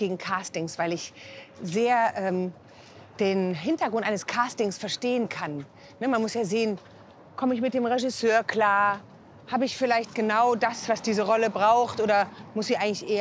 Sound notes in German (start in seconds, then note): none